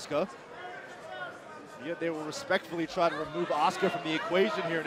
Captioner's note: crowd cheering